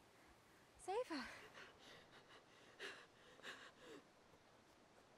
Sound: gasping

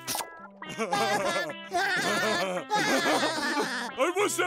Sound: laughing

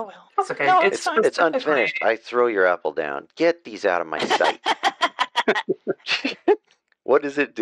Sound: laughter

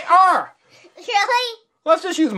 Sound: laughs

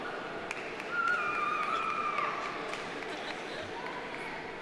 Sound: audience applauding

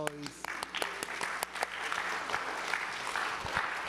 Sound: applause

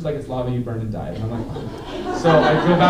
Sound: laughter

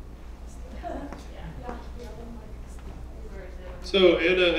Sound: laugh

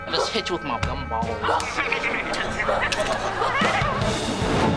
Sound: giggling

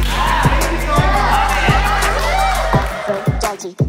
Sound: claps

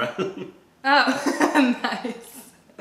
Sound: laughter

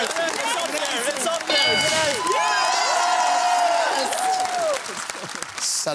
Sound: bell dings

